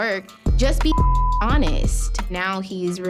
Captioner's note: beep